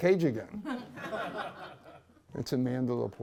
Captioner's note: laughter